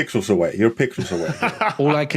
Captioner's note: laughs